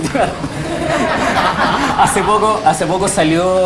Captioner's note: laughter